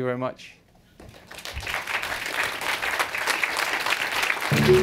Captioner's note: applause